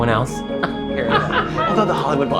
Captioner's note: laughing